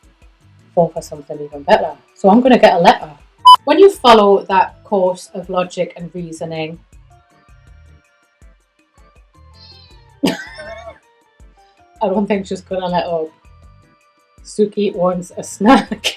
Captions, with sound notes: four for something even better. So I'm going to get a letter. When you follow that course of logic and reasoning... (cat meows) (laughs) I don't think she's going to let up. Suki wants a snack.